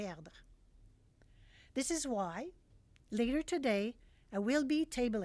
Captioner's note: speaking French